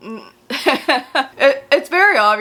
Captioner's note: laughs